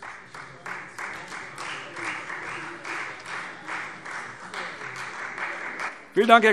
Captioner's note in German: Beifall Freie Demokraten